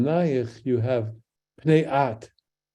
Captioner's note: speaks in Hebrew